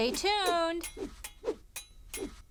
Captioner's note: swords clashing